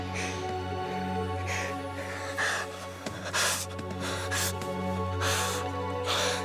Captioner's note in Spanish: sollozos suaves de diego